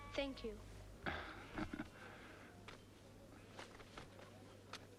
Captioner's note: Pateray chuckles